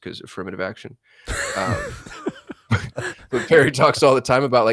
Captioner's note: laughing